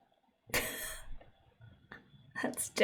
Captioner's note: laughs